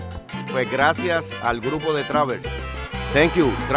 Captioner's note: speaking foreign language